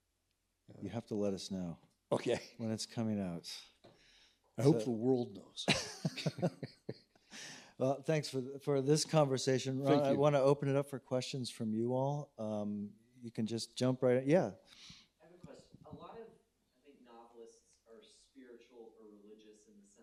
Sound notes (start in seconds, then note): 5.6 laughing